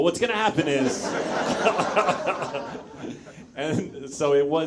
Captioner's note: audience laughs; Zach laughs